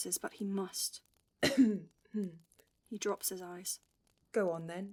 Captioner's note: Regulus coughs